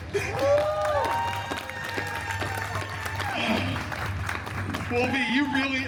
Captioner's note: guests cheering and applauding